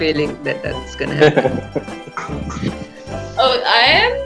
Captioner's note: laughs